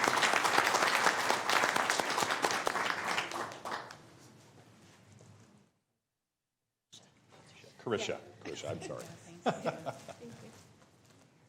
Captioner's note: applause; applause